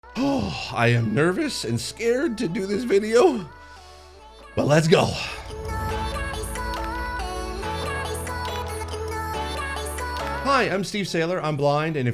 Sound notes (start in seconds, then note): 0.1 sighs in distress; 4.6 upbeat music